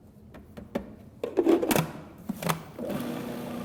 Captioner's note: blender sound